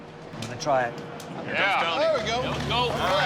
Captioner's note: all cheer